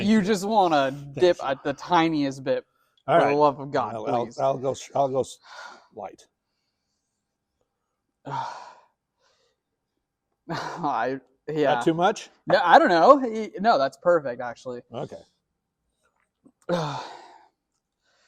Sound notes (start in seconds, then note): 8.3 sighs